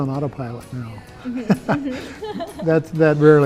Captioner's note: laughs